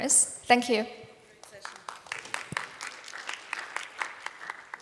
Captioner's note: applause